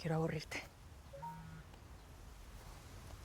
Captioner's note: cell phone notification